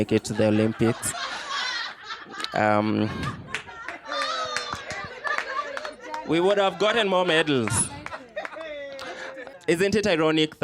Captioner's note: laughter